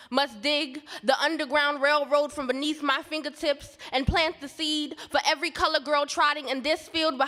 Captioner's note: none